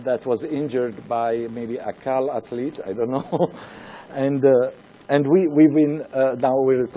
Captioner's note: chuckles